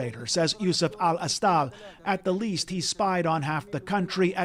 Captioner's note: speaking alternate language